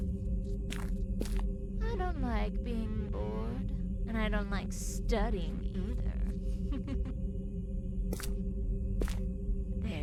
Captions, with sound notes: I don’t like being bored and i don’t loke studying either. (laught).